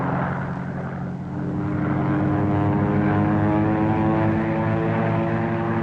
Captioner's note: plane revving